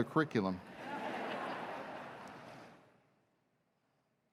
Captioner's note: laughter